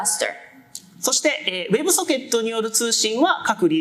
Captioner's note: speaking japanese